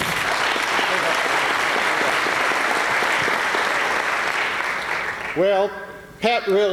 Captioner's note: applause